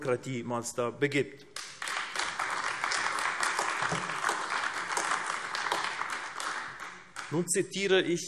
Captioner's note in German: Beifall AfD